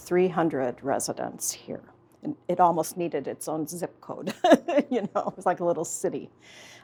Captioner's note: laughs